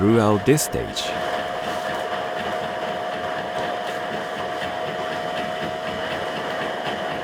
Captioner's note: machine continues chugging and whirring